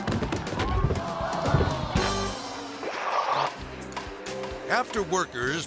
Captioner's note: audience exclaiming